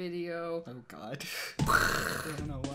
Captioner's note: inhale; makes explosion sound